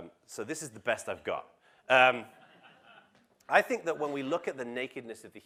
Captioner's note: laugh